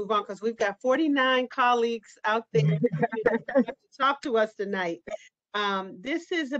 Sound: laughter

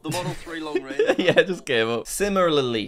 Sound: laughs

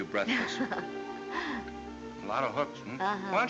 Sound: chuckles

